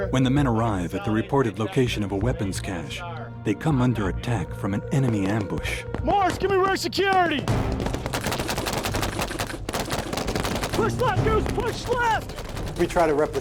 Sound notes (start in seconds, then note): 0.3 voiceover; 7.6 automatic gunfire